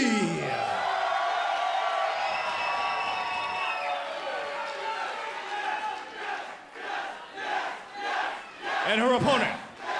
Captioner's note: crowd cheering